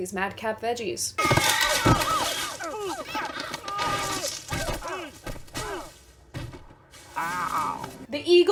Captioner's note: vegetable screams